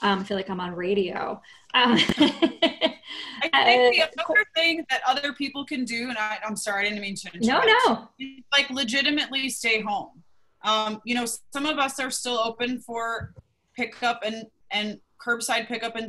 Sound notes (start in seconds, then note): 1.8 laughter